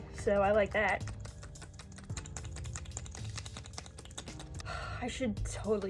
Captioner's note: sloshing noises; heavy sigh